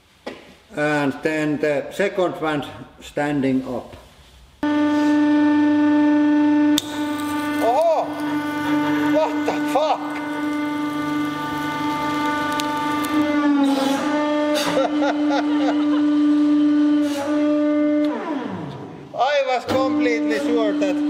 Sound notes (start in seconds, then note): 8.3 laughing; 14.5 both: laughing